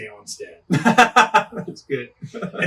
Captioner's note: laughing